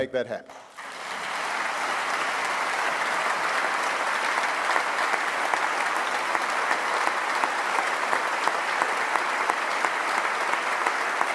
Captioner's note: applause